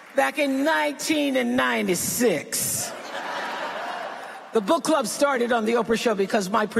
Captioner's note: laughter